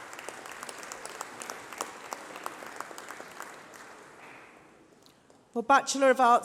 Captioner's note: applause